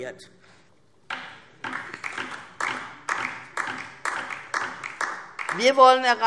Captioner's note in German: Beifall DIE LINKE